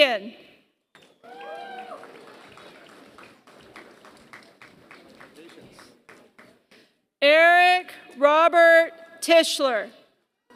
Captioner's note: applause